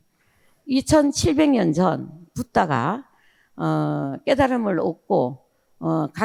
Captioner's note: speaking in foreign language